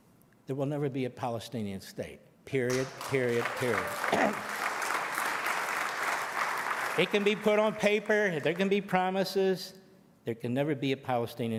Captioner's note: applause